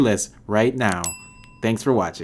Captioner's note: bell dings